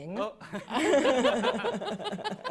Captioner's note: laughter